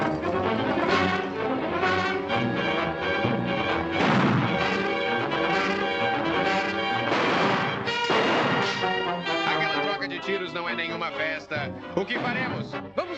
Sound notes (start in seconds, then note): 0.1 tense music; 3.9 gunshot